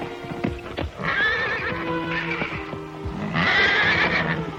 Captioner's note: horses neighing